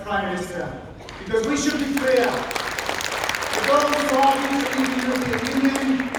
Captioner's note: applause